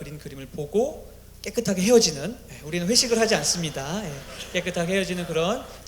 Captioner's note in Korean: 웃음